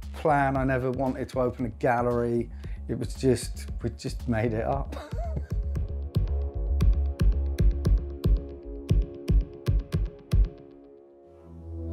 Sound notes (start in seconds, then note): 4.4 curious electronic music; 4.9 chuckles